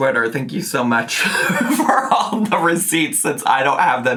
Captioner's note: laughing